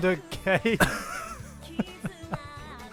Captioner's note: laughter; gags